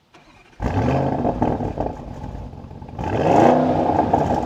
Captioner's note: vehicle revving loudly